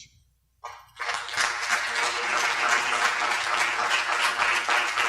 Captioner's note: audience applauds